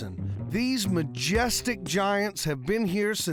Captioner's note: none